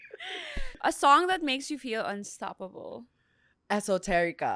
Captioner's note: laughs